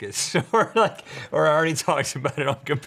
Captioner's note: laughs